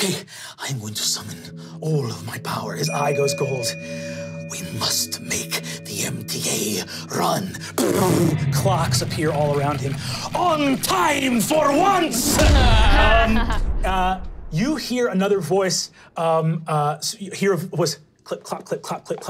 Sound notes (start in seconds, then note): 12.4 whooshing; 12.6 laughing